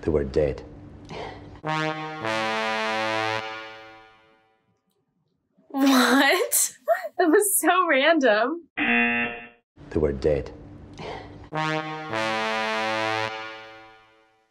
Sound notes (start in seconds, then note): 1.6 tense music; 6.5 laughs; 8.8 buzzer rings; 11.5 tense music